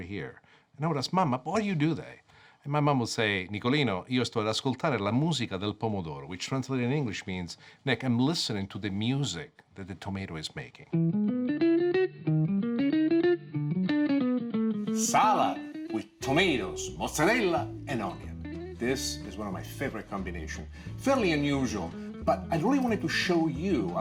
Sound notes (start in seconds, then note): 4.0 speaking Italian; 10.9 jazzy music